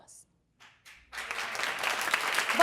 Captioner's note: applause